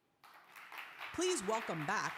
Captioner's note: audience applause